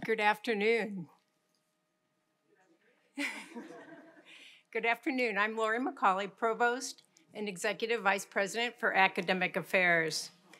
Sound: chuckle

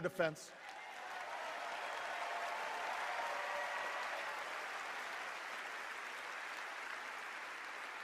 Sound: cheers and applause

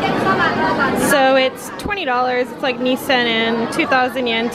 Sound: speaking foreign language

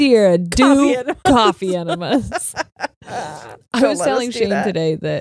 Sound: laughs

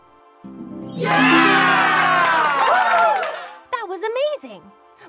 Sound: audience cheers

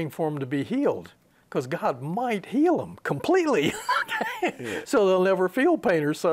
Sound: he laughs

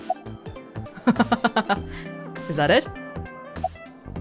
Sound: chuckles

